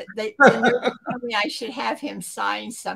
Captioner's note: laughter